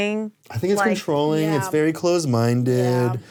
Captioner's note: none